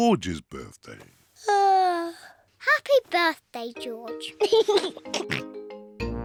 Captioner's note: yawns; laughs and oinks